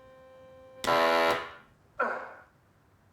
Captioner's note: machine blaring; grunting